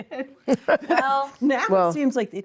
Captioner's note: laughing